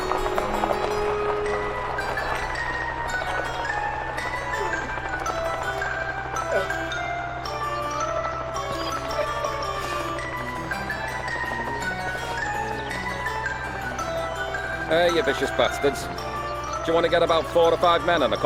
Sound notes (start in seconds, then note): 4.5 dog whimpering